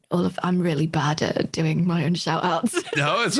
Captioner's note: laughs